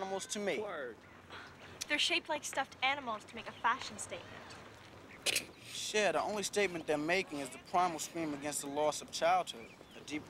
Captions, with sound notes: WORD. THEY'RE SHAPED KELI STUFFED ANIMALS TO MEAK A FAIOSHN STATEMENT. ( snicrikeng ) THONE LY STATEMENT THEY'RE MAKING IS THE PRIMAL SCREAM AGAINST E THLOSS OF CHILDHOOD